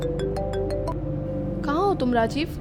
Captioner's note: phone ringing